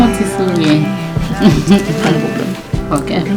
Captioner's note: chuckling